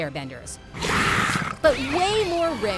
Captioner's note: growling